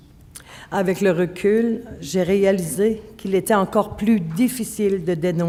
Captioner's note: speaking French